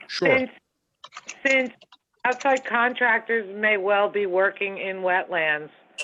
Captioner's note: phone